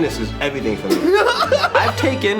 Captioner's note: laughing